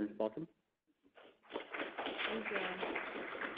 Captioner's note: clapping